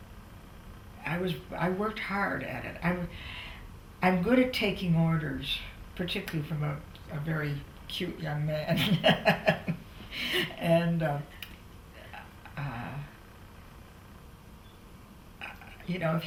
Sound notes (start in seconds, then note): 8.7 laughs